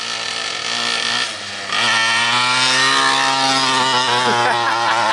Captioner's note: motor revving; laughing